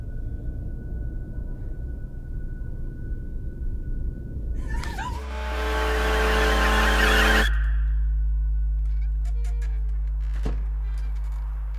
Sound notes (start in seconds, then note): 4.7 horn blares; 4.7 gasping; 6.8 screeching; 8.8 door creaks